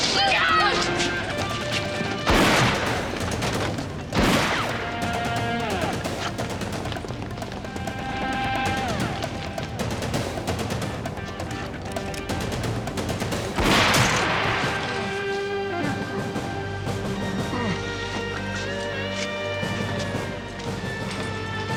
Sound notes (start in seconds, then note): 2.0 gunshots blasting; 5.9 thrilling music; 13.0 gunshot blasting; 15.0 guard groans; 18.7 thrilling music